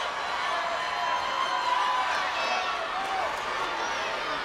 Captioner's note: crowd yelling